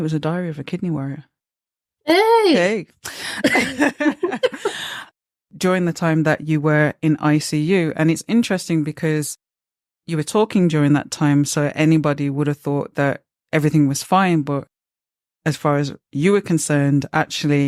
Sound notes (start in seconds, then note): 3.2 they laugh